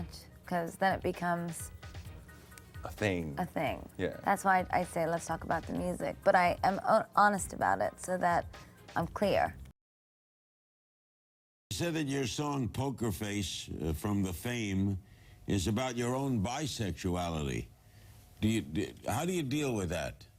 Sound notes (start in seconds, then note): none